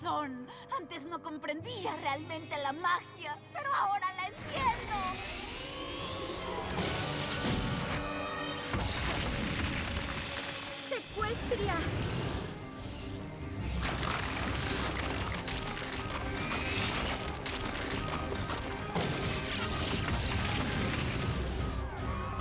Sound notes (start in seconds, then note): 7.1 explosion and clattering; 13.7 crackling; 22.1 screams